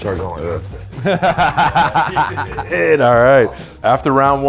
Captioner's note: everyone laughing